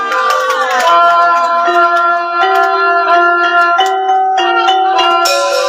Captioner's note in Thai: ปรบมือ